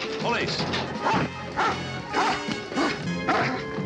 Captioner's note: dog barking